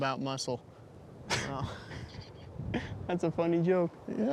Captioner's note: both laughing